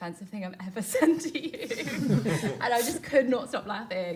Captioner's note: everyone laughs